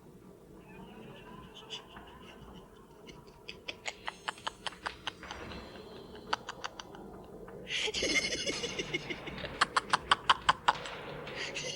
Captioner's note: The Gatekeeper revs up his laughter